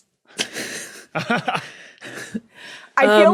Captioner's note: snickers; laughs